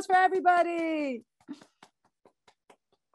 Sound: clapping

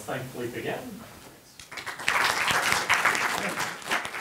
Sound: clapping

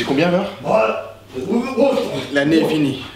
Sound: clears throat

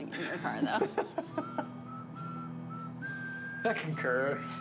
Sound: laughing

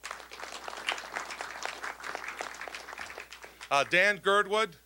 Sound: applause

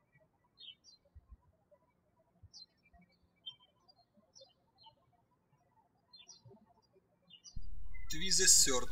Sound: birds chirping

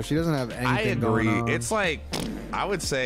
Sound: sputters

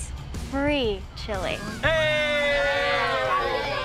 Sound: cheers

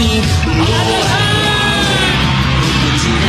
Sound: various thank yous

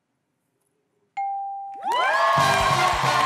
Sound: ding!; cheers and applause

